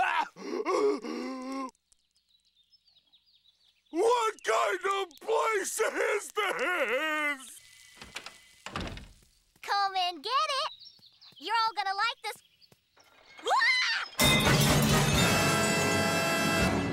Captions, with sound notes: [gasping] What kind of place is this?! Come and get it! You're all gonna like this... [screams] [dramatic sting]